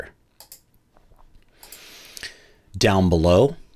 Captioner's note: computer mouse clicking